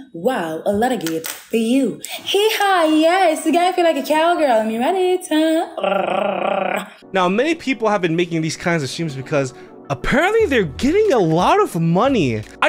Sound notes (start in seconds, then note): 5.7 rolls tongue